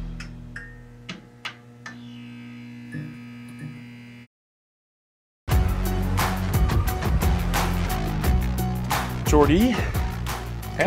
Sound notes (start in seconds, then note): 0.1 neon sign buzzing; 5.5 upbeat music